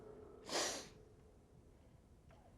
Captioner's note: sniffs